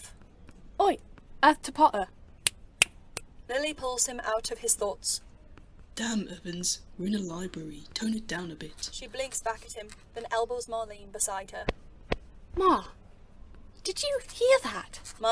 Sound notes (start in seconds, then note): 2.6 Lily snaps